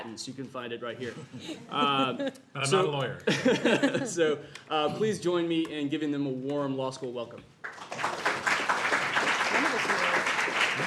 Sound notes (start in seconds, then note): 1.1 laughter; 7.6 applause